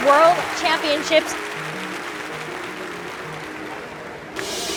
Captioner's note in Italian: applausi e musica a sfumare